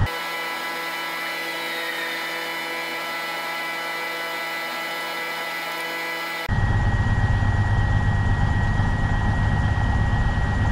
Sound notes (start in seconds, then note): 0.1 audio buzzing; 6.7 train humming